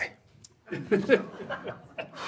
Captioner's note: laughs